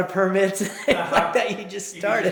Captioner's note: laughs